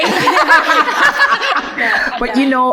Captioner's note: ladies laughing